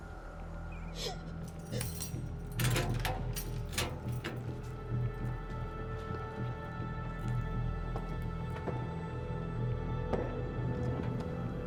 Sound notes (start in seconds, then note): 0.9 clang; 0.9 crying